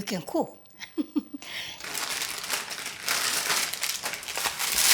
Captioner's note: laughing